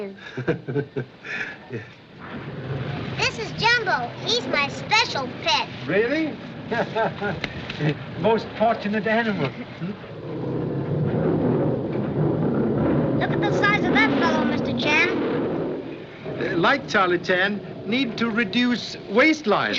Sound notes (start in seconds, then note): 0.2 chuckles; 6.6 chuckles; 10.2 growling